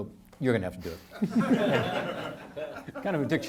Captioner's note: audience laughing